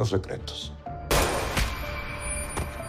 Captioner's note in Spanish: Disparo